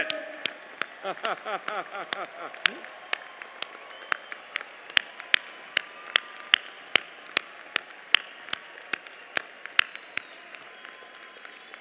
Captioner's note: applause